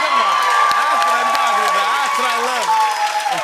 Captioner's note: cheers and applause